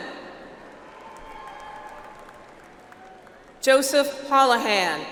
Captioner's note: audience applauds